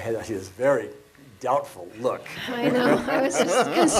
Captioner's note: laughs